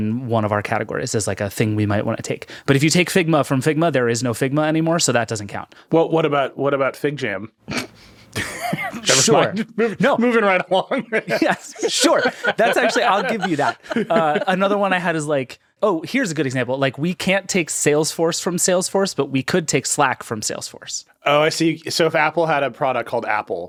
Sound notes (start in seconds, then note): 8.3 laughing